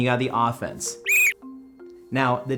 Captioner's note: whistle blows